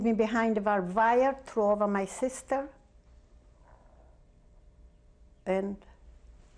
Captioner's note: pauses for 3 seconds